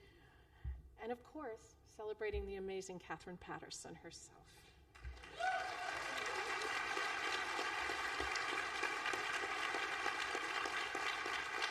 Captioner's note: applause